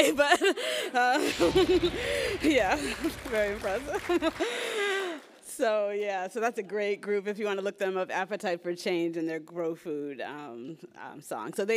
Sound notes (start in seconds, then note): 4.2 laughs